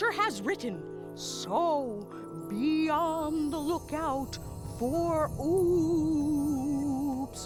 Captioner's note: eerily